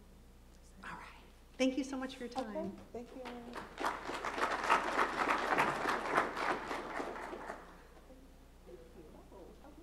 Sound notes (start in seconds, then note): 3.0 applause